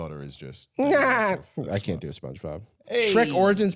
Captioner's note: high-pitched cackling